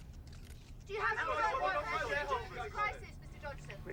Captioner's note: reporters clamoring